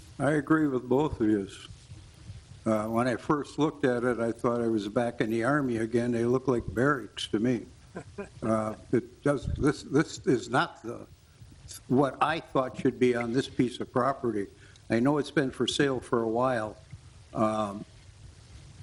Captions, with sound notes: I agree with both of yous. When I first looked at it, I thought I was back in the Army again. They look like barracks to me. (person chuckles) This is not what I thought should be on this piece of property. I know it's been for sale for a while.